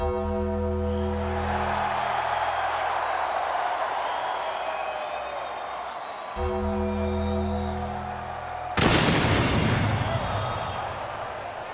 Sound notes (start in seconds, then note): 0.1 bell tolls; 1.7 crowd cheers; 6.4 bell tolls; 8.8 thunder cracks